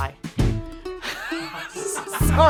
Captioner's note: crew laughing